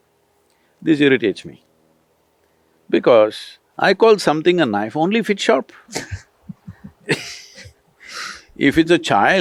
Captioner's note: laughter